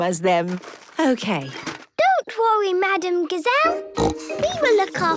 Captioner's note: snorting